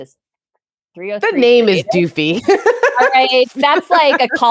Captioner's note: laughs